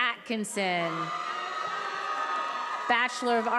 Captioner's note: attendees applauding and cheering